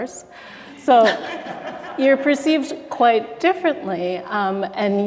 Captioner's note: audience laughter